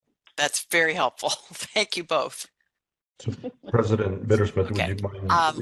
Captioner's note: laughing